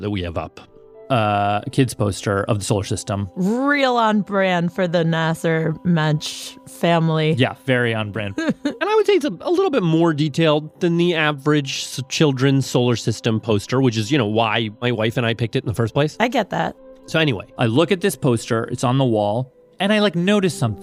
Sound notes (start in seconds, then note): 8.3 laughs